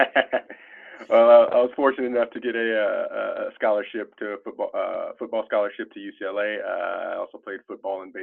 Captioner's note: laughter